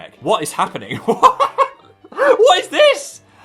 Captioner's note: confused laughter